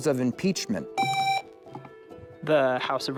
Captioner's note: buzzer